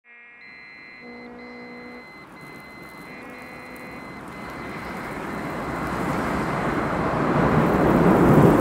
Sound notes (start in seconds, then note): 1.4 rover sounds/Dust/Wind; 4.1 heavy wind